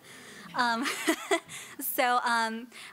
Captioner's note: laughing